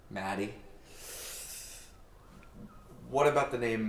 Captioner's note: Anubis inhaling